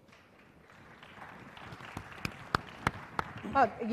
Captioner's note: applause